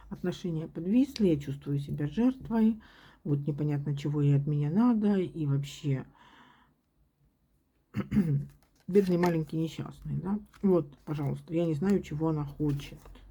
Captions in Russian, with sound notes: отношения подвисли, я чувствую себя жертвой. Вот непонятно, чего ей от меня надо. И вообще [кашель][откашливается] бедный, маленький, несчастный. Да вот, пожалуйста. Я не знаю, чего она хочет.